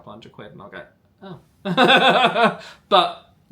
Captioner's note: laughing